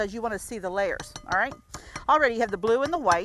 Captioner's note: spoon banging